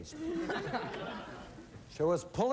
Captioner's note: laughter